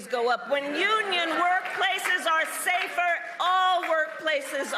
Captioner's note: applause